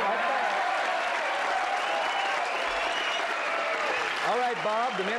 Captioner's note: applause